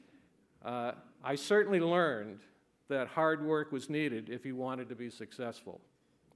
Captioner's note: none